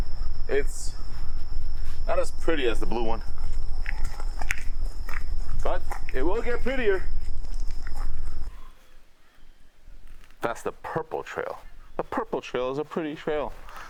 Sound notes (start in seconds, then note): 4.1 footsteps pattering